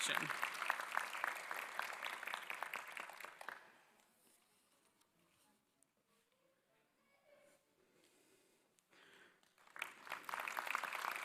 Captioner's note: applause